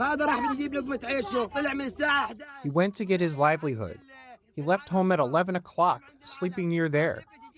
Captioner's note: through translator